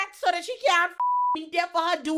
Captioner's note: beep